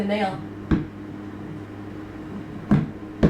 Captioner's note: thudding